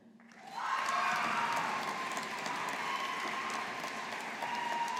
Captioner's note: audience applauding